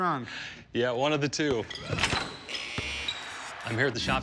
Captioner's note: shoes squeaking, basketball buzzer blares